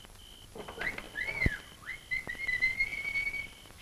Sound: whistling

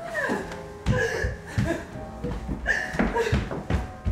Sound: crying, heavy breathing

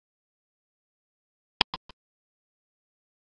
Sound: click sound

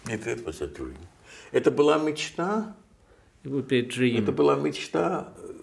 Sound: speaking Russian

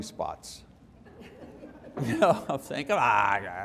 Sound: laughter

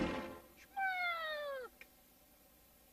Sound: Mimsie mewing

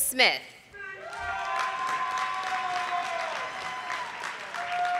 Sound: audience applauding

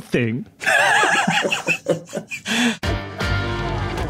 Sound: group laughing; laughs

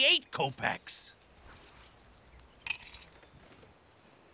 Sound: coins jingle, drop

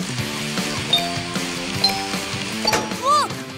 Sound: chiming

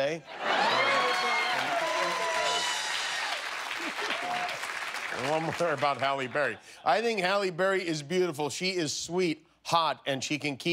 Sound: cheers and applause

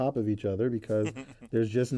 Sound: laugh

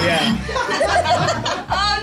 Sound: laughing

